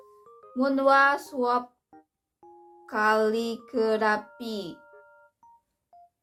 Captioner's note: reading in Korean